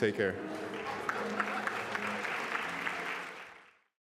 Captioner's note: applause